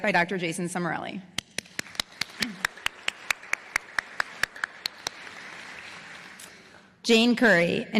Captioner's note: applause